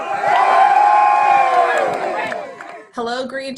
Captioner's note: crowd cheers